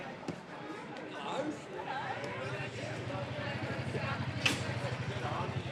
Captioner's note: people chattering